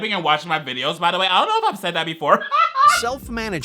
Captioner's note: laughs